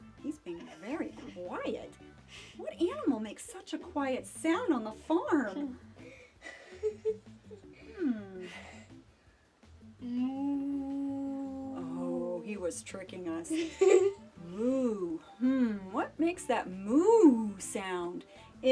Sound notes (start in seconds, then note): 6.3 giggling; 10.0 mooing; 13.6 chuckling